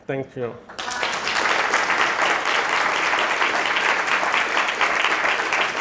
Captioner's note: audience applauding